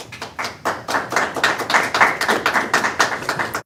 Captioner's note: applause